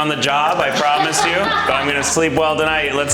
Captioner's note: laughs